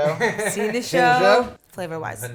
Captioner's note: laughs